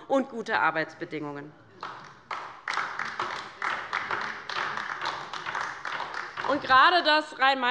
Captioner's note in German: Beifall bei der LINKEN